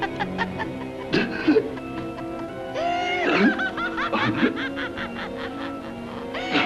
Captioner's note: laughing; gasping